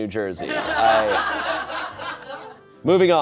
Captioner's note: audience laughing